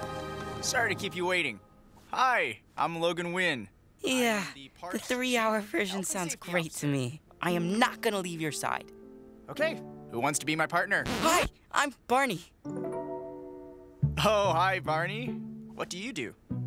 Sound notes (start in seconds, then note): 0.0 romantic music plays; 5.3 dreamily